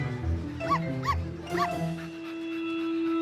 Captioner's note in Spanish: Ladridos